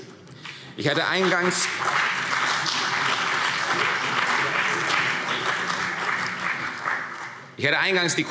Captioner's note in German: Beifall CDU und BÜNDNIS 90/DIE GRÜNEN